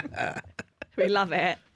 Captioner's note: laughter